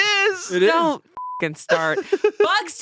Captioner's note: beep